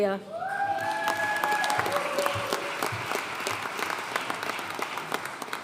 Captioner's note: audience cheering and applauding